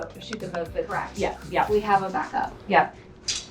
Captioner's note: woman's Voice